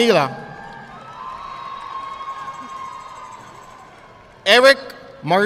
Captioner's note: audience clapping